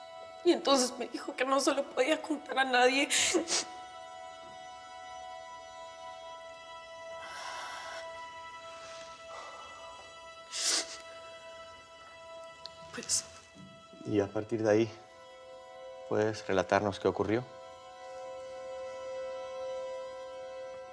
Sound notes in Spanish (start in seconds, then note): 3.0 Sollozos